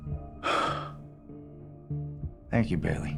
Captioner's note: exhales